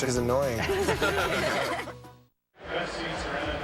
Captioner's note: laughter